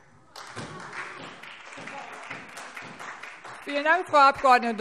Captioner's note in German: Beifall SPD